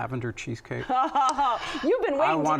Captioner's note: laughs